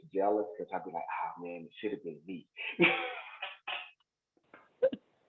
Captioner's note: laughs